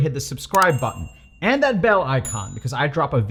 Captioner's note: bell chimes